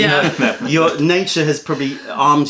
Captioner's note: laughter